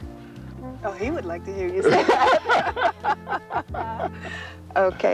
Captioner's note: both laughing